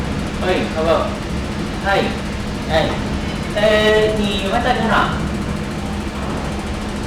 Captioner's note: speaking in Mandarin